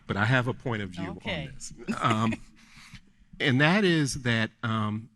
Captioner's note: laughing